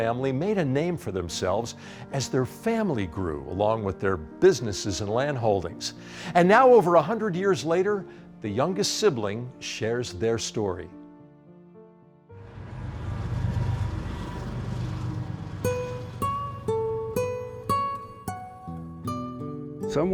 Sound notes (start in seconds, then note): 12.4 train rolls; 15.3 contemplative string music